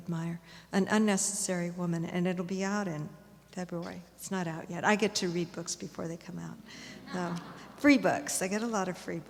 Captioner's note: laughter